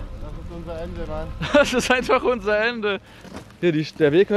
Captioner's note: laughs